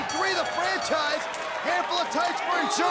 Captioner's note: bell ringing